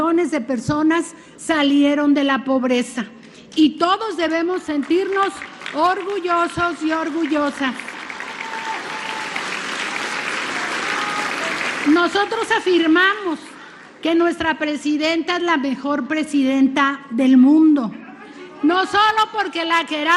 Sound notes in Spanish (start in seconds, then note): 9.6 aplausos